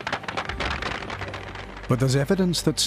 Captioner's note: applause